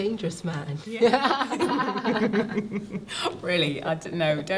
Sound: both laugh

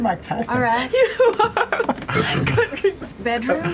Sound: laughing; laughter

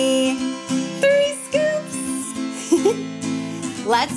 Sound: giggles

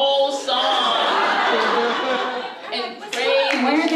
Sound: audience laughs

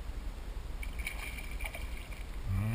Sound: splash, splash!

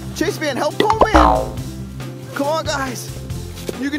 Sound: coil springs

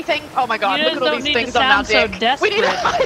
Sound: laugh

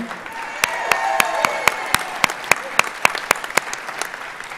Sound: audience applauds

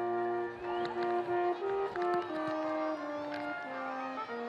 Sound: students cheering

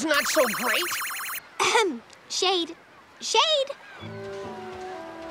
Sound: clearing throat

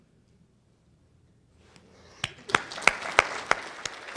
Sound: applause

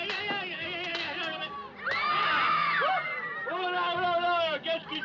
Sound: screaming

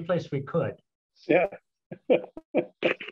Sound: laughter

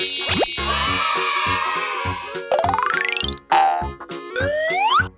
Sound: magic sounds; cheering voices; playful music

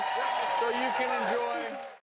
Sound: audience applause

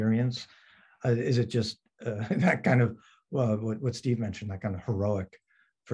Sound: chuckles

